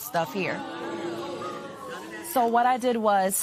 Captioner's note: spectators groan